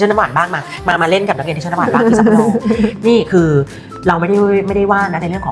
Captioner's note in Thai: เสียงหัวเราะ